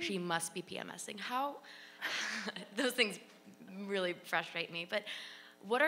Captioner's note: laughs